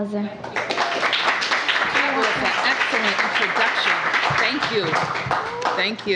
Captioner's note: applause